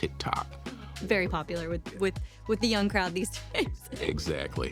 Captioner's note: laughs